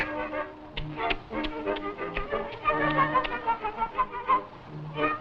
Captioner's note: mouth chomping